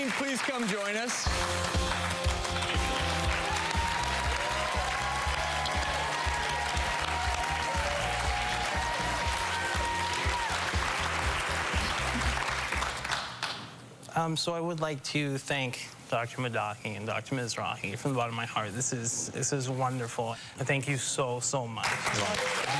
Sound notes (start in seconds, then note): 0.3 applause; 7.0 crowd cheering; 7.6 applause